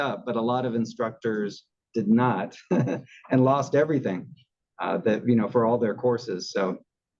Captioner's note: laugh